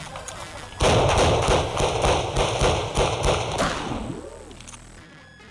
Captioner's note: gunshots